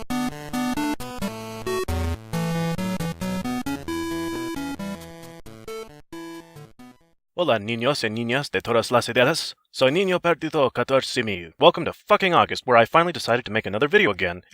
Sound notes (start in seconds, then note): 7.2 Spanish